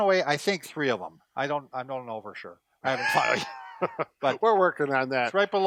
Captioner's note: laughs